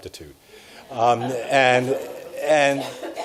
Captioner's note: audience laughs